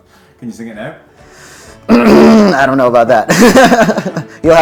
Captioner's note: laughs